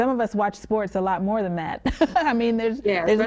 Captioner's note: chuckling